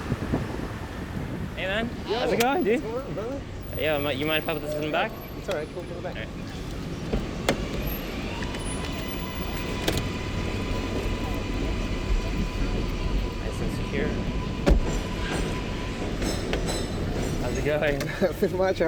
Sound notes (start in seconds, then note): 8.8 subway Train Leaving Station; 15.9 car Door Closing